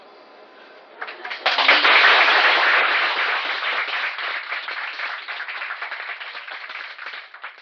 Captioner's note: clapping